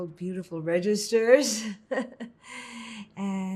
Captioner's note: laughing